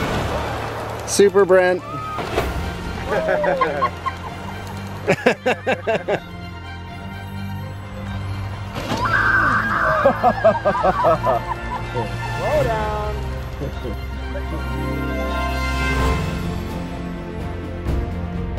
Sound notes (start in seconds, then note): 4.8 laughing; 9.8 laughter; 15.4 orchestral music